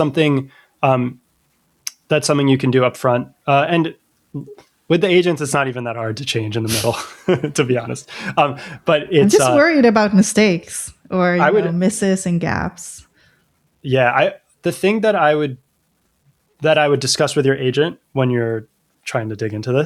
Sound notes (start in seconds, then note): 3.4 uh; 6.6 laughter; 9.1 uh